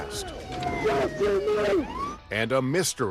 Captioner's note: commotion